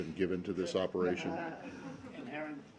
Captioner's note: laughter